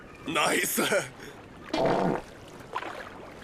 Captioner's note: farts